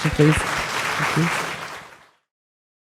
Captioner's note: audience applauds